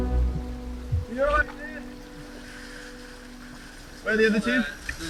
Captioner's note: water whooshing